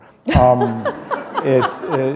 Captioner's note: laughter